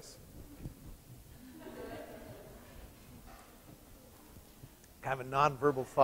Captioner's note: laughter